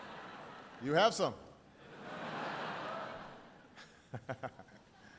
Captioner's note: laughter